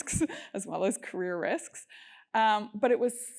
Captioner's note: laugh